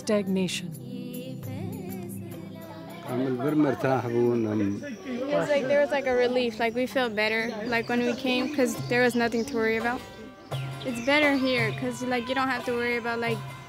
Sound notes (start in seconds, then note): 2.6 gentle music; 4.6 foreign language spoken